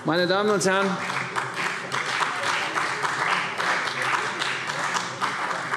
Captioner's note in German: Beifall CDU